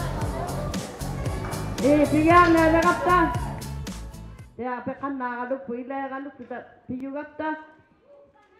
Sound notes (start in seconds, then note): 0.0 crowd chattering; 4.3 speaking alternate language